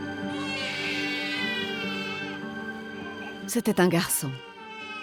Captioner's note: baby shrieking